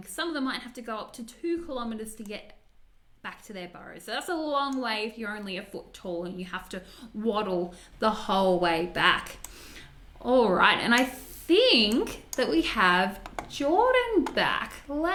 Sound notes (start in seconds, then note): none